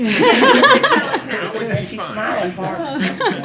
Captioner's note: laughter